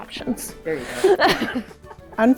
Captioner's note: laughs